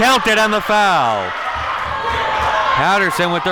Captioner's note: audience cheering